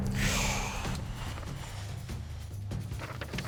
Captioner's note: exhales